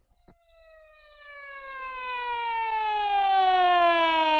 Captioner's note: siren blaring